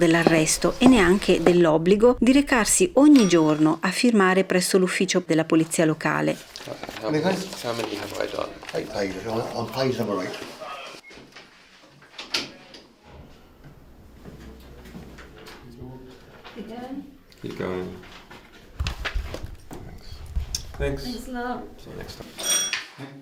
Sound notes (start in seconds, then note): 13.7 noise from the door that closes and opens; 22.4 bell ring